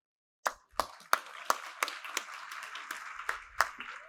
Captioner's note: applause